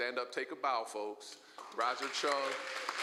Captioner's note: applause